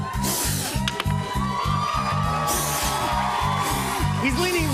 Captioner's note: cheering